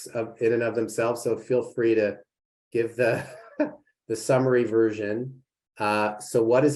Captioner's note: laughter